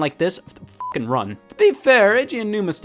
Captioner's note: beep